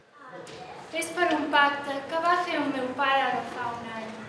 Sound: speaking in Catalan

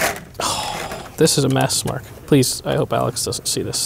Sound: sighs

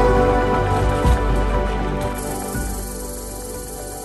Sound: sound of squirrel chatter

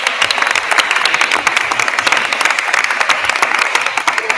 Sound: attendees applauding

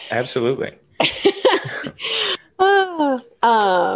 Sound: laughs

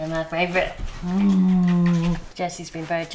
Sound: smooching

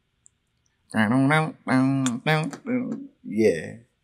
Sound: mimics electric guitar

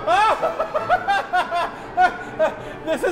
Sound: more hysterical laughter

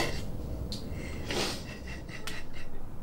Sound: emma cries and sobs

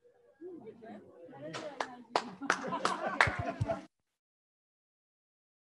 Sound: scientists chattering quietly

